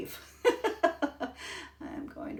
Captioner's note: laughing